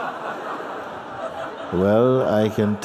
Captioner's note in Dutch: gelach